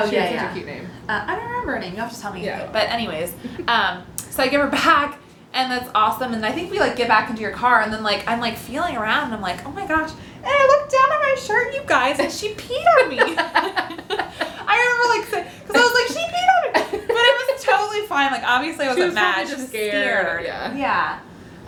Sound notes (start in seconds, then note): 12.9 laughter